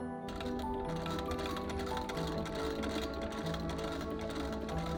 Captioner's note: sewing machine whirring